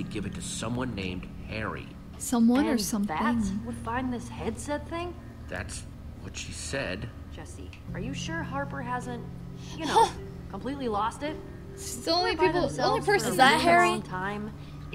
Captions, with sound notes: - Someone or something? (laughs) - It's the only people, the only person-- - Is that Harry?